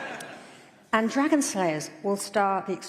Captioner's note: laughter